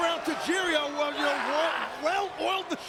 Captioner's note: shouting